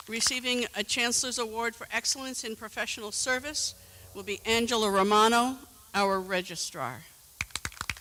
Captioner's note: applause